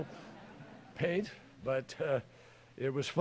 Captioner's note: laughter